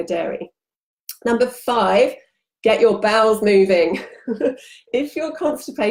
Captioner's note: chuckles